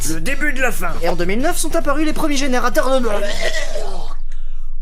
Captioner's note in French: bruit de dégueulis